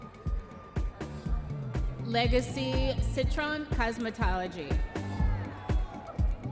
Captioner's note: audience members cheering